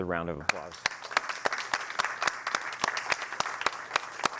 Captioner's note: applause